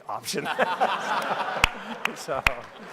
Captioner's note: laughing; clapping